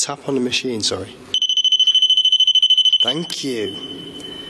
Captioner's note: digital beeping